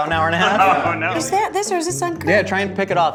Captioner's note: laughs